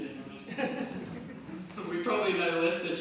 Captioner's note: panel laughs